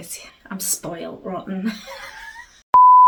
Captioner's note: laughs